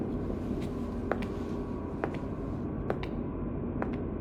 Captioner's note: footsteps walking